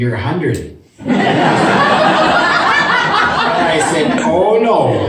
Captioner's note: audience laughs